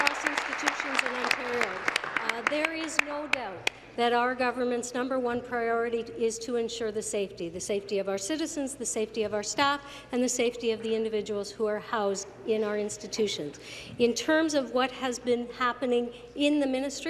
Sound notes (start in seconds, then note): 3.5 applause